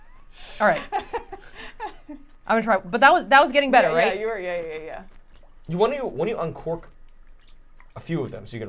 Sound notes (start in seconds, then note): 0.6 laughing